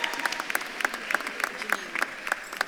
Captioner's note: audience claps and cheers